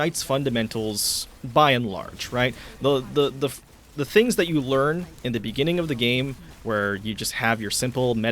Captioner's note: stutters